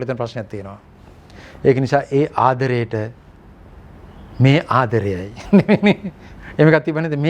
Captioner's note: laugh